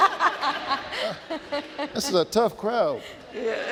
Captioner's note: laughing; laughing